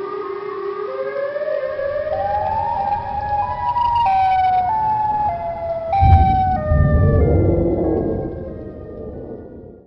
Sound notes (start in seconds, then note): 1.5 Siren Head Sounds